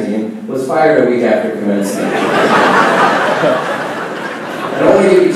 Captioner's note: laughing